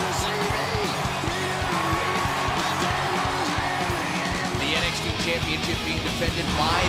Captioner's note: crowd cheering